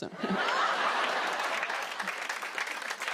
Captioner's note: laughter